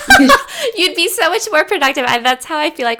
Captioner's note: laughing